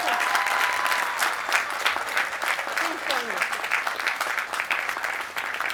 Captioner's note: applause